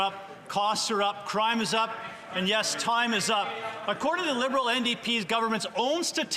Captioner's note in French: voix de l'interprète